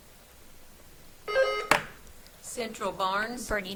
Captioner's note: buzzer trills